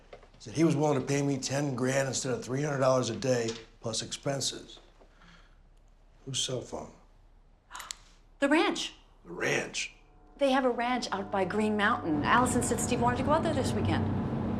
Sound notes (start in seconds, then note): 7.6 gasps